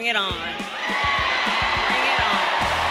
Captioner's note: crowd cheering loudly